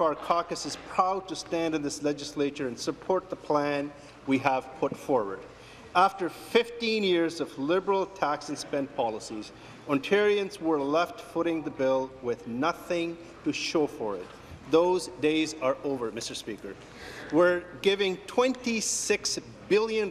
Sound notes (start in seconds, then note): none